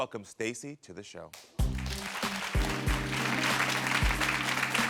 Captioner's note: audience applauding